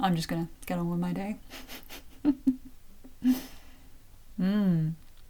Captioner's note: chuckle